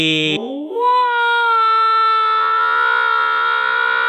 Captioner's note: host whines